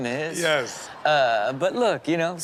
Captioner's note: crowd laughs